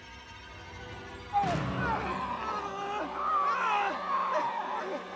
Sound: screaming

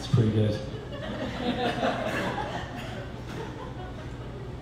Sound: laughter

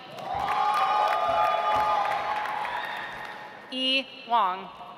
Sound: audience applauds

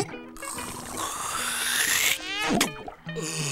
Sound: slurping

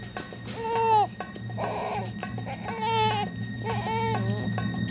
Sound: baby whimpers

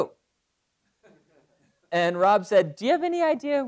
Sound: laugh

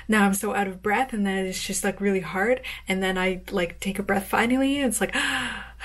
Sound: gasps

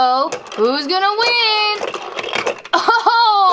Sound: toy rattles

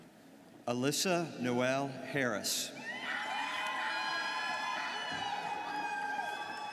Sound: students cheering

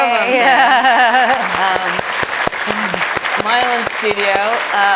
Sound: audience applauding

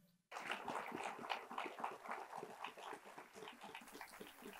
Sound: attendees applauding

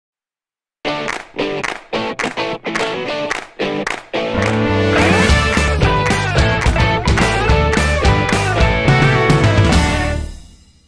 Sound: claps

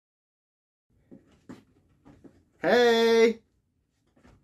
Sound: feet shuffling

